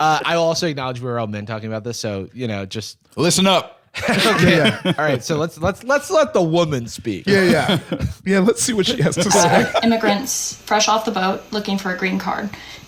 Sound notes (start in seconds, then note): 4.0 laughs